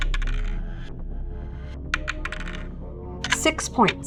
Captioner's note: dice clinks